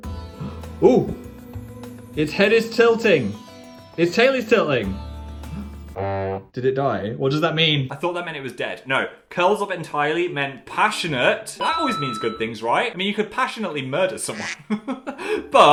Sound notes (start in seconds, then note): 0.8 upbeat music; 6.0 horn blowing sardonically; 14.2 laughs